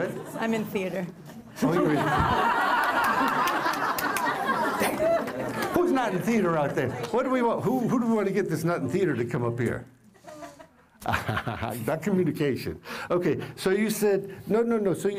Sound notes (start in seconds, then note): 1.3 laughter; 10.2 laughter